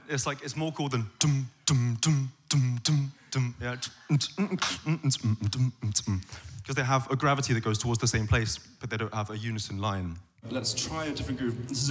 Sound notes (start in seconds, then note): 2.0 basic bass line; 3.7 complex beat boxing